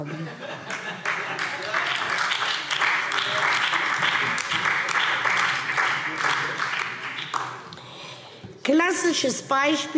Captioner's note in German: Heiterkeit und Beifall SPD, BÜNDNIS 90/DIE GRÜNEN und DIE LINKE